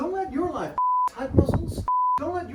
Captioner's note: beep plays